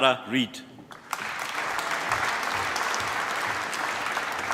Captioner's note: applause